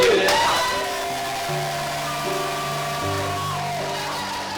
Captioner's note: wild cheering